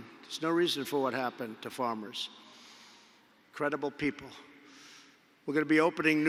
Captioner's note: none